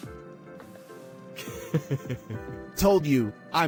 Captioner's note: chuckles